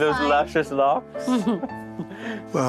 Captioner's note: chuckles